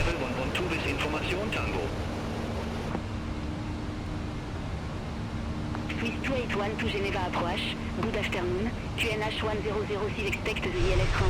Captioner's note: radio chatter